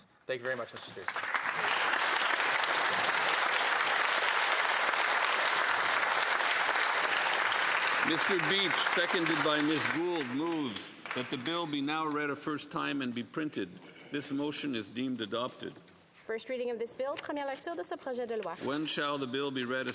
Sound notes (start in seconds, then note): 8.2 applause